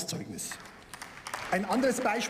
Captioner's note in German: Beifall